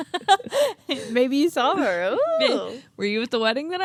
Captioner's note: laughs